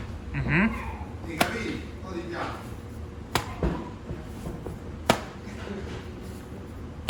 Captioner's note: flapping dough